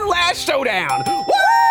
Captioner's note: timer dings